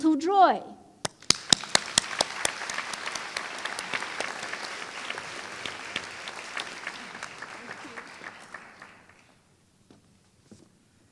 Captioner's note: applause